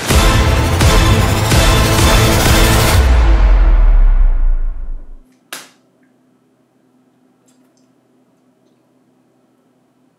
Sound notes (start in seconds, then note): 0.0 epic music; 5.9 awkward silence